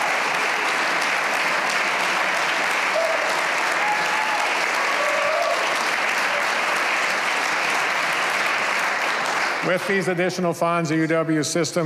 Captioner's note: cheers and applause